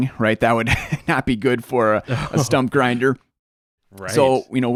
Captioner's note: chuckles